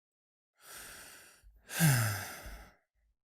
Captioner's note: inhale and exhale